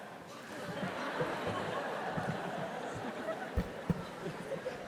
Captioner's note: audience laughs